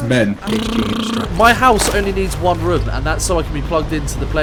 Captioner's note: raspberrys